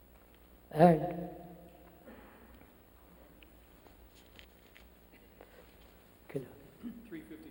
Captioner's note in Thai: พูดเป็นภาษาฝรั่งเศส